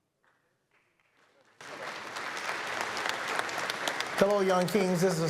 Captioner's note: applause